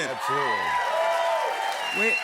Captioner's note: cheers and applause